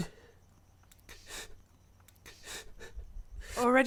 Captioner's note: weeping